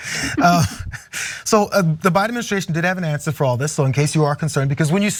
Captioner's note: laugh